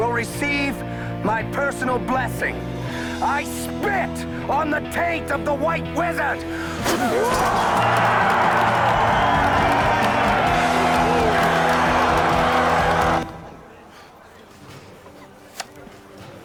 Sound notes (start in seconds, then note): 6.7 spits; 6.8 crowd Roars